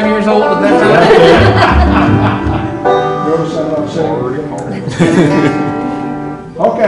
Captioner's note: laughter